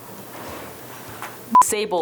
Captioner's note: machine beeping